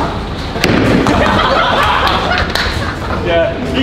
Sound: lads laughing

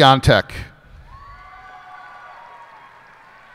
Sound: cheers and applause

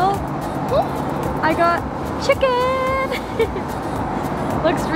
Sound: laughs

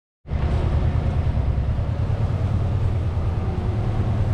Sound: vehicles humming

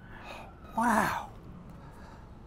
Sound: man exhaling

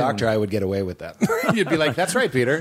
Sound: laughter

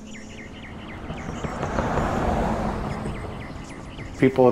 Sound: car passing

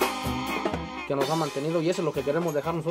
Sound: in Spanish

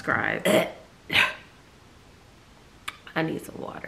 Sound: clears throat

